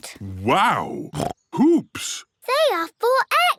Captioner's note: snorts